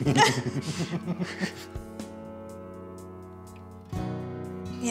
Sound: laughter

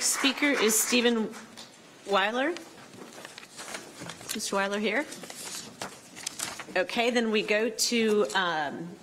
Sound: applause

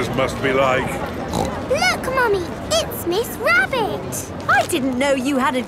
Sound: snorts

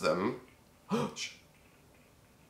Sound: gasp

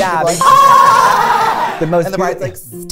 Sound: screams

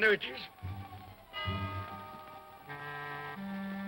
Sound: clock chimes; tense ominous music

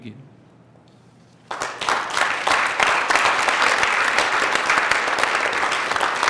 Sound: applause

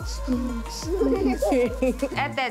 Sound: baby giggling

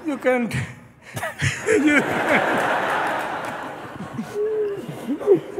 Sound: laughter

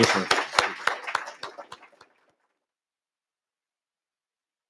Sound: applause

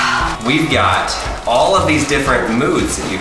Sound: sighs loudly

